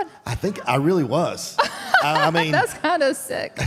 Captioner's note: Michelle laughs